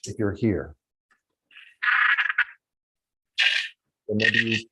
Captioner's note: dolphin squeaking